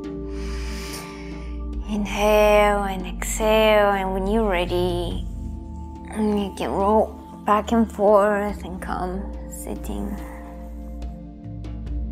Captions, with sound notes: (inhaling) Inhale and exhale and when you're ready, you can roll back and forth and come sitting.